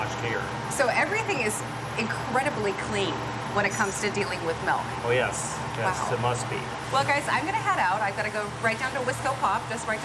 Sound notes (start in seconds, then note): none